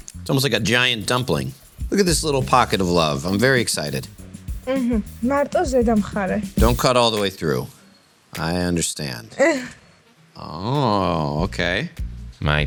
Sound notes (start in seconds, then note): 4.9 speaking in a foreign language; 9.4 chuckling